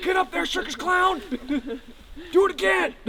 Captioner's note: laughter